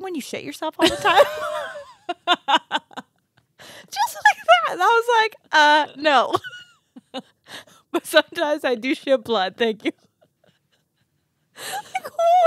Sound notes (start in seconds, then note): 0.8 group laughs